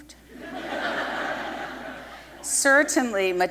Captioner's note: laughter